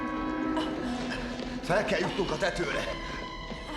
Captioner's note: Mary panting